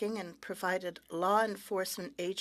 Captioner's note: speaking French